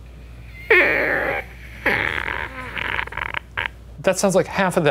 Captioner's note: imitating a creaky hinge